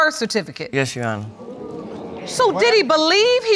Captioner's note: audience exclaims